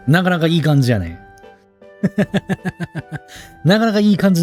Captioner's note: laughs